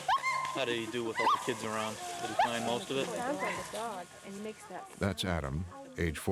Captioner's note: imitating dog bark